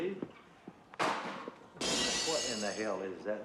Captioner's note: thud and glass shattering